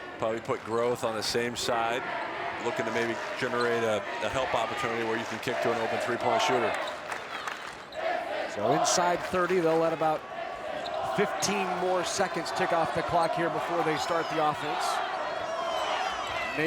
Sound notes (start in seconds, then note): 7.0 crowd chanting